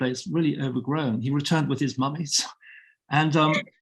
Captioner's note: both chuckling